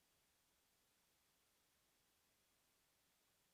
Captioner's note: none